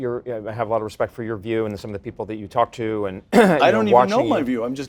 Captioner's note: cough